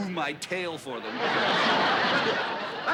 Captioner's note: laughter